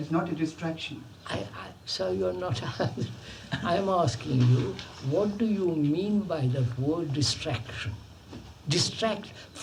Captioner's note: laughs